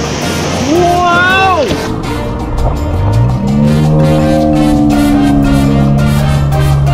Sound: slow motion voice

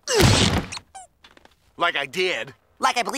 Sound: thud

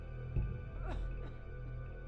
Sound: woman gasping

